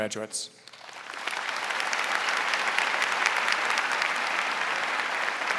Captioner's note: audience applauding